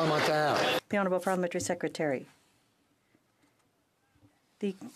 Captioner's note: some Applause